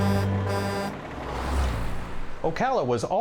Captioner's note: truck horn